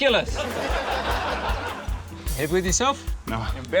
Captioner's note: laughter